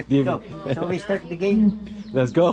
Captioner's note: drinking